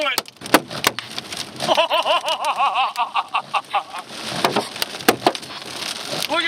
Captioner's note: hail smacking; laughing